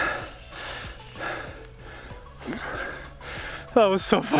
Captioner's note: breathing heavily